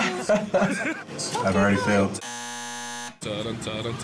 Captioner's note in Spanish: Risas; zumbador